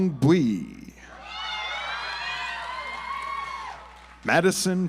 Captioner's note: audience applauds